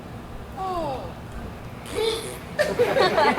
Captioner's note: blows raspberries; audience laughs